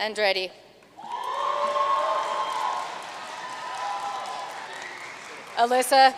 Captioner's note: audience cheering and applauding